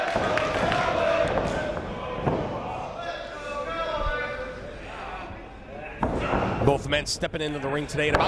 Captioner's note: applause